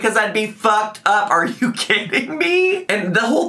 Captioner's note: laughs